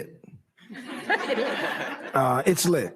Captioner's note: laughter